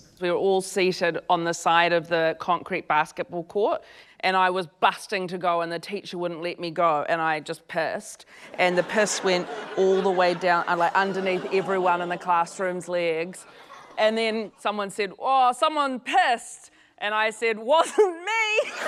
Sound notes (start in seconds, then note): 8.6 laughter